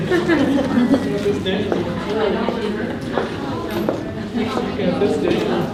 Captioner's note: participants talking at once